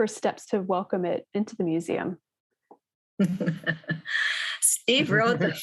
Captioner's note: laughs